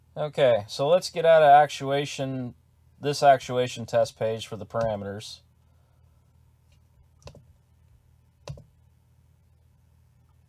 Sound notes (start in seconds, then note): 4.8 mouse clicking